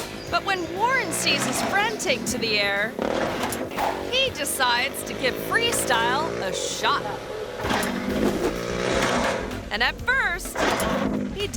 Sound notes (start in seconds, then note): 3.0 motorbike revs; 3.0 ramp clangs; 7.6 motorbike revs; 7.6 ramp clangs